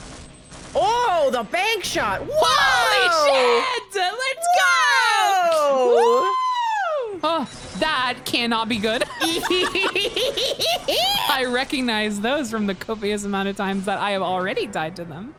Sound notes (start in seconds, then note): 7.4 gasps; 9.0 laughs maniacally